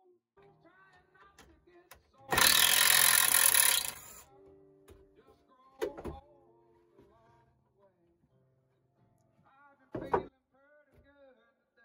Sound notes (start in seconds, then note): 2.3 electric drill sound